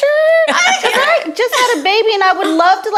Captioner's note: laughing